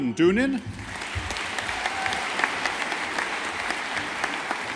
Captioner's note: audience applauding